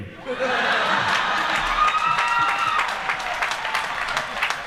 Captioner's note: laughter